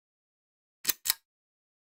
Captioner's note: click